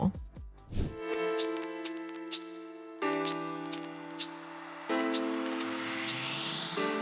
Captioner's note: soft music; air whooshes